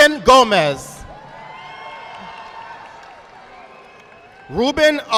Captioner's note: audience applauding